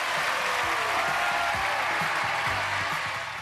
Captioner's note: cheers and applause